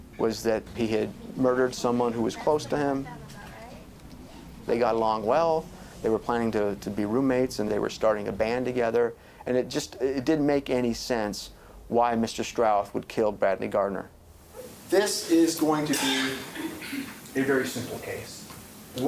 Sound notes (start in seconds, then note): 3.4 office chatter